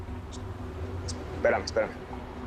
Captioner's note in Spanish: Vicenta susurra